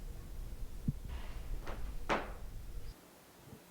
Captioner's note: soft tapping